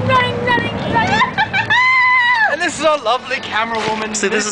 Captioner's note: cries of anguish and futility